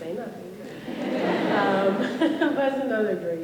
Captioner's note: laughter